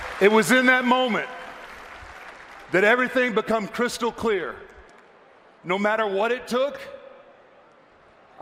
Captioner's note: applause